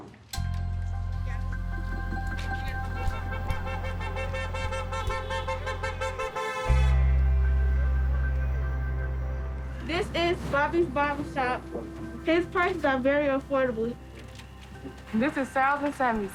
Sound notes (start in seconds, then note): 5.2 calm music; 7.1 car horn honks